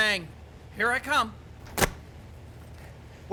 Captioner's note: bangs